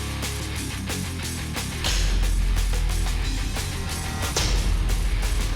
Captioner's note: heavy metal music; blade impact sounds